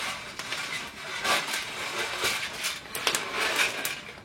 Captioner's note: scratching rustling